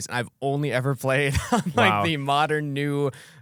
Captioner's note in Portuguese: risos